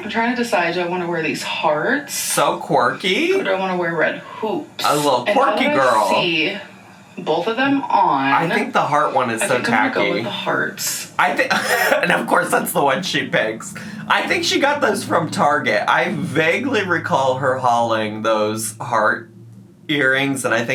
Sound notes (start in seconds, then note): 11.2 laughs